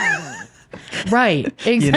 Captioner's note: laughing